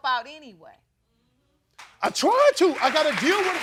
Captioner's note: crowd applauds